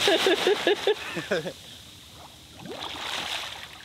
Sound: laughing; laughs

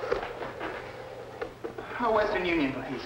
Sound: phone dialing

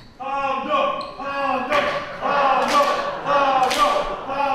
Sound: yelling

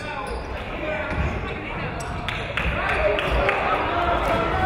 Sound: shouting; clapping

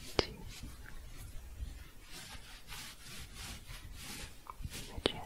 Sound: shuffling

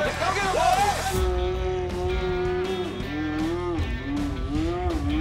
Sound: roaring

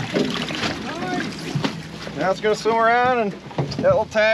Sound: splashing

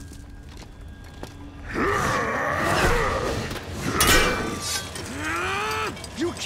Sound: grunting

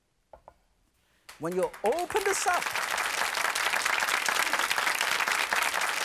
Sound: audience clapping

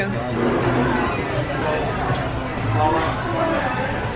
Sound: bystanders murmuring

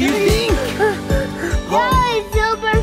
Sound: breathes heavily

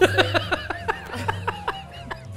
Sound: laughs

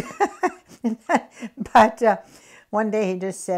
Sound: laughs

